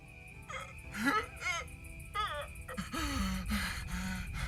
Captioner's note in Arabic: بكاء; قرقرة